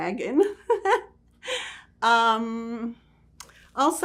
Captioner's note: laughing